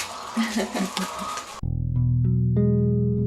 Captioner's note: laughter